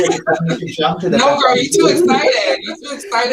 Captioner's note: laughter drowns out speaker; group laughs